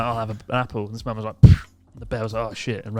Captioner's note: thumping